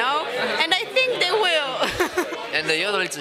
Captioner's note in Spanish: risas